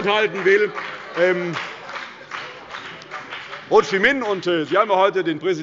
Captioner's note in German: Heiterkeit – Beifall bei der CDU und dem BÜNDNIS 90/ DIE GRÜNEN